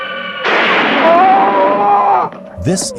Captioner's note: Dalek fires; scream